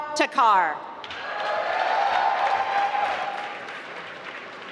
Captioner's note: applause